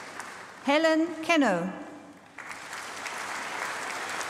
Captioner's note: applause